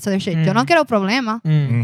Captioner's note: non-english Speech